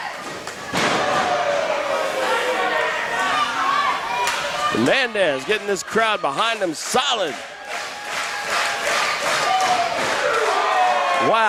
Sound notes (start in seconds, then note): 0.7 loud smack sound; 8.8 crowd roars